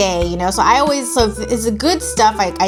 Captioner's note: mumbles